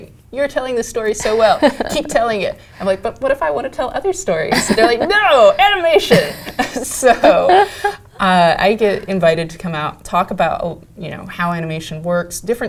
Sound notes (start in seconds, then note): 5.9 laugh